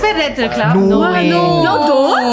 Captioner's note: pants